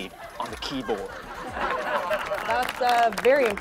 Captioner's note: audience laughs and applauds